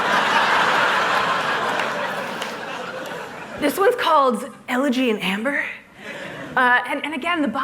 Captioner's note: laughter